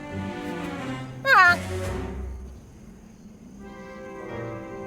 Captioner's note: agreeable honking